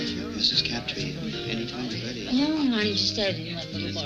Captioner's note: slurring